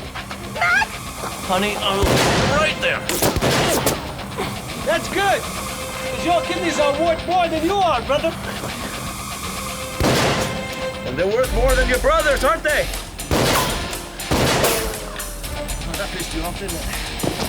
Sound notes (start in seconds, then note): 1.9 gun fires; 5.1 firing continues; 10.0 firing continues; 13.2 firing continues